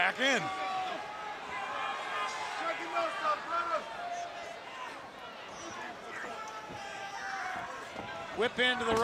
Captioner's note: crowd chatter